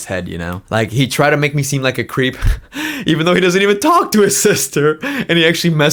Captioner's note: laughs